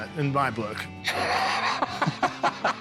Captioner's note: laughs